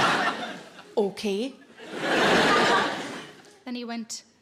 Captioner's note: audience laughing